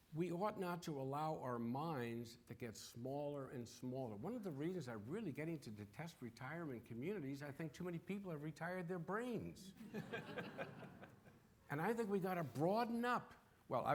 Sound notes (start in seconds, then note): 9.8 audience laughing